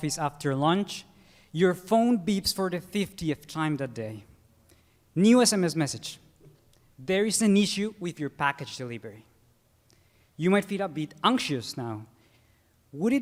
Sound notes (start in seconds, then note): none